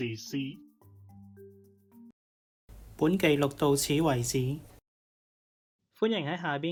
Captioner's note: sound of white noise